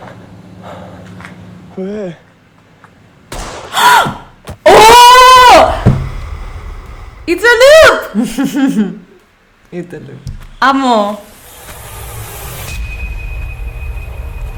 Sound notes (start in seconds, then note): 3.3 gasps in spanish; 4.5 shocked in spanish